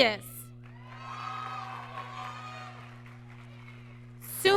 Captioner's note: applause